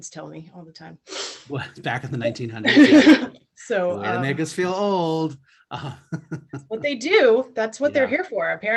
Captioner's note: laughs